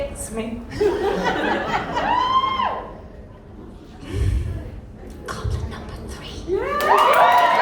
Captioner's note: whispering